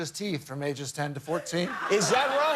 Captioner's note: laughter